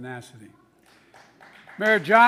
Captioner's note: applause